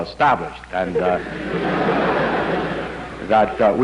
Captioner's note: laughter